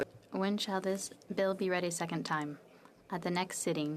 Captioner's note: speaking French